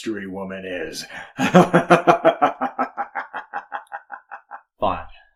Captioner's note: darkly chuckles